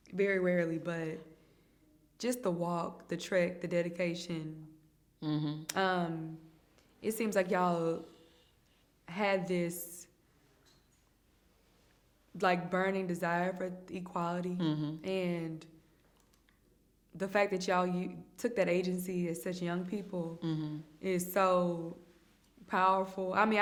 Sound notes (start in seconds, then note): 14.6 hums in agreement